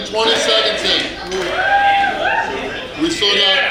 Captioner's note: cheering & Clapping